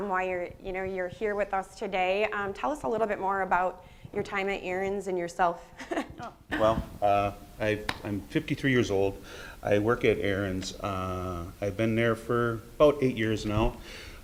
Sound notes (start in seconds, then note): 6.4 laughs